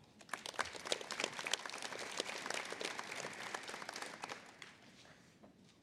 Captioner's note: applause